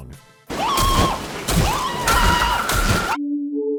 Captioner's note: scream